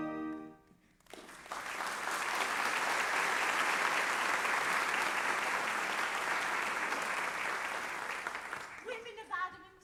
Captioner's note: applause